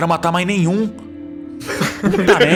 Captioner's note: laughter